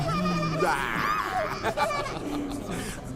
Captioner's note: risas